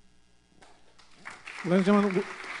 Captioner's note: applause